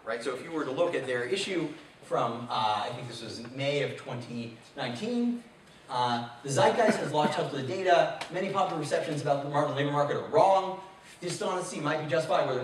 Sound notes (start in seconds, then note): 6.7 man coughing